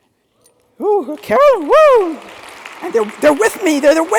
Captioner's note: attendees clapping